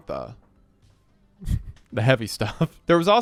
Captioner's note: chuckles